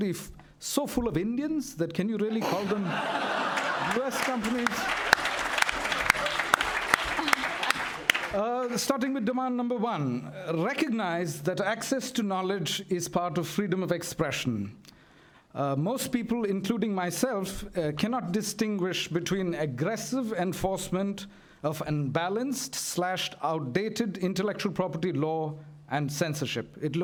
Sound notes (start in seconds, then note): 5.4 laughter and applause